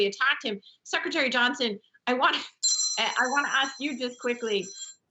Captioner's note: phone rings